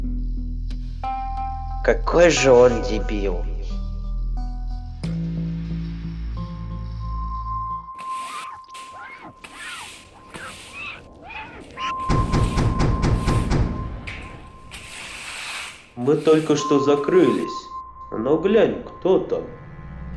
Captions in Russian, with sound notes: "Какой же он дебил" (звуки швабры и тряпки) (настойчивый стук в дверь) – Мы только что закрылись, но глянь, кто там.